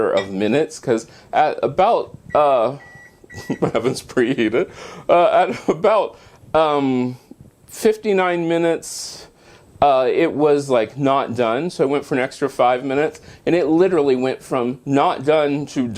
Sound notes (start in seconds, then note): 2.2 beeping sound